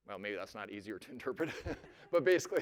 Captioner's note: laughter